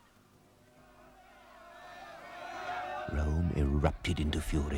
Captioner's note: angry shouting